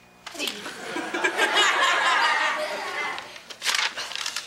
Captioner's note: audience laughs